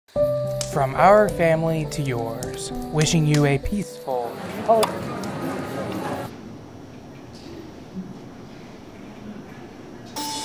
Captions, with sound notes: (soft music) From our family to yours wishing you a peaceful Holiday... (click off TV)